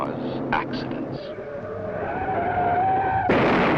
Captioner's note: tires squealing; crash!